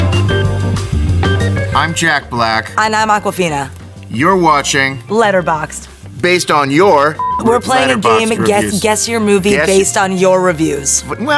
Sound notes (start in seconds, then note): 0.3 playful music; 7.2 beep